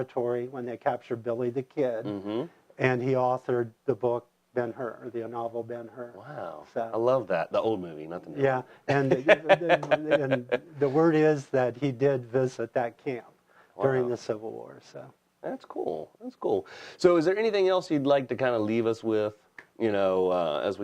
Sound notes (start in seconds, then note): 8.9 laughs